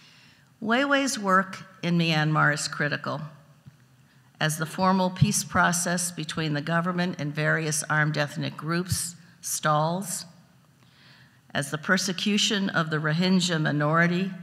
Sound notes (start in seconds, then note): none